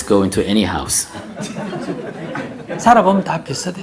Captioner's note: audience laughter